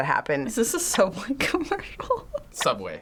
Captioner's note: chuckling